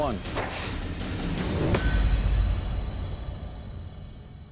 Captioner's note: whoosh, clang